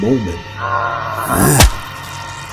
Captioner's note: the goat bleats